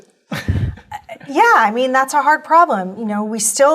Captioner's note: laugh